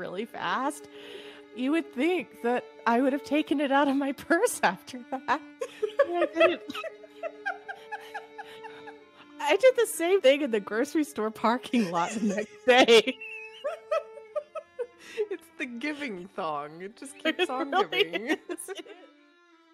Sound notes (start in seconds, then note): 5.6 laughter